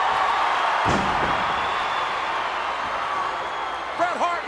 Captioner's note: body thuds